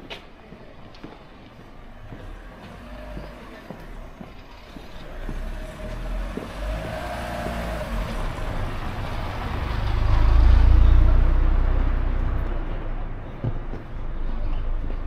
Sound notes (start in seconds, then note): 5.1 people chattering; 12.8 people chattering